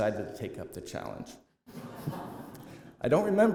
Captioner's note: laughter